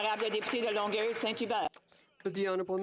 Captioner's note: some Applause; speaking French